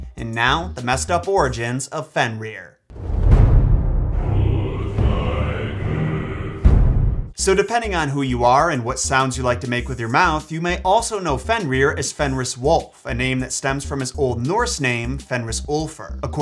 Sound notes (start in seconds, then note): 2.9 drums thundering; 4.2 men chanting in foreign language